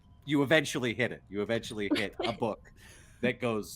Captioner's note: Calla laughs